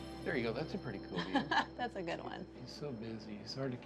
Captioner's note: laughs